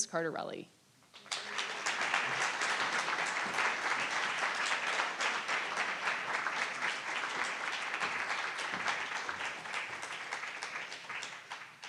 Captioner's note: applause